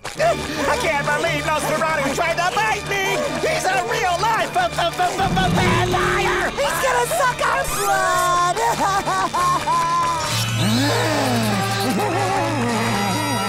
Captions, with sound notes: I can't believe Nosferatu tried to bite me! He's a real life v-v-v-vampire! He's gonna suck our blood! [crying] [laughing]